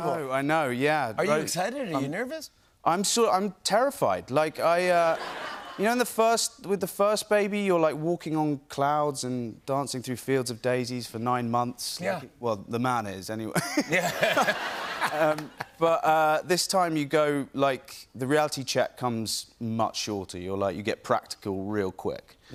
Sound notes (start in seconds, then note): 5.0 laughter; 13.8 laughs